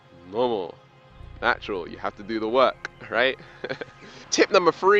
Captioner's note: laughs